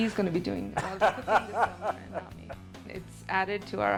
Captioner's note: laughs